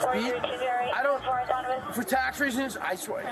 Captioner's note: radio chatter